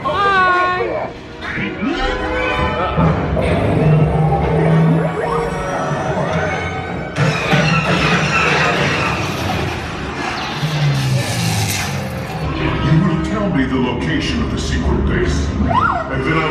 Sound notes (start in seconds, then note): 1.7 dramatic music; 7.1 lasers firing